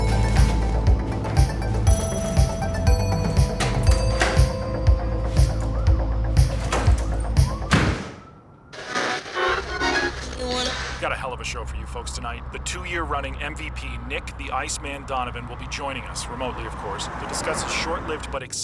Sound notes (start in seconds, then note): 6.9 door slamming; 8.7 radio tuning static